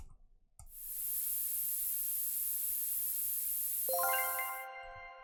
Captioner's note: spray sound